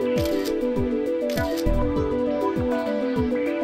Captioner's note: camera snaps